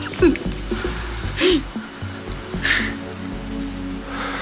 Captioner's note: sobbing